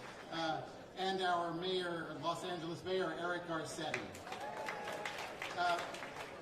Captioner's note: applause